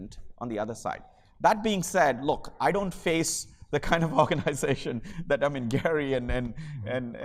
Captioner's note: laugh